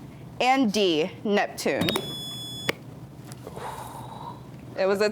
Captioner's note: buzzer beeps